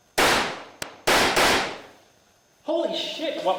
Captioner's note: gunshots